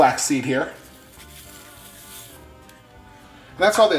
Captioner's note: pouring